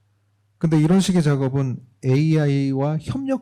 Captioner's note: speaking korean